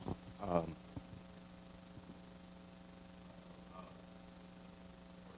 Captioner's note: audience member murmuring